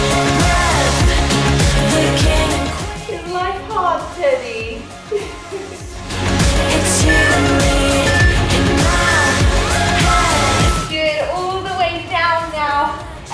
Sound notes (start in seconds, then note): 5.0 laughs; 6.9 timer beeping